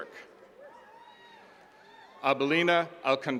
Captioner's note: attendees cheering